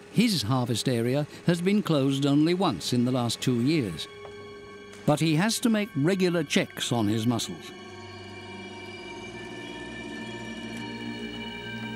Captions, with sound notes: His harvest area has been closed only once in the last two years. But he has to make regular checks on his mussels. -[anchor cranking] -[suspenseful music]